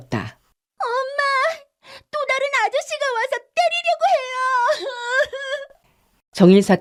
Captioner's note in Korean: 울음